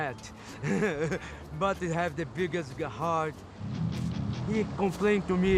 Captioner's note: laughs